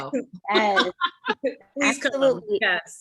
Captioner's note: women laughing